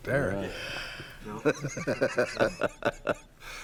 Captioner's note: laughing